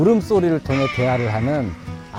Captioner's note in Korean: ‘금지’와 ‘옥엽’의 울음소리